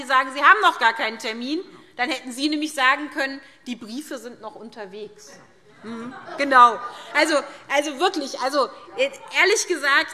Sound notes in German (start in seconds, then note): 5.8 Heiterkeit und Zustimmung SPD und DIE LINKE